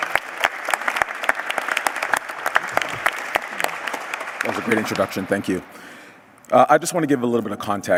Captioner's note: applause